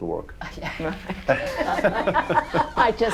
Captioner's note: all laughing